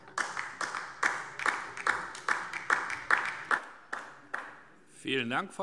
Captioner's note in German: Beifall DIE LINKE